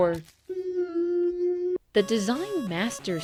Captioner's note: Ned Flanders making a hover noise